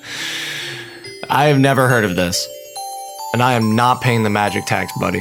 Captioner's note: gasps and sighs